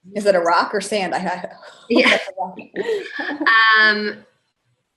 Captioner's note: laughs